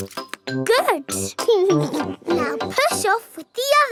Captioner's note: chuckles